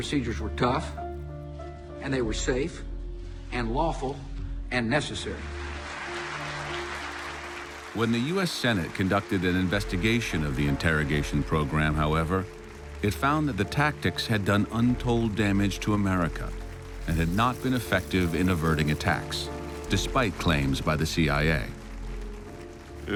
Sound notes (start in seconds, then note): 5.5 applause